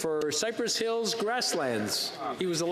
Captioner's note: speaking French